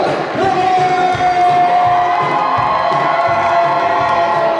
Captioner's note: crowd cheers